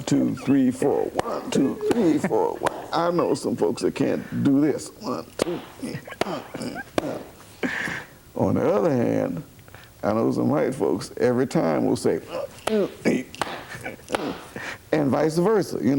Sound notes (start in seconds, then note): 7.5 claps; 13.3 claps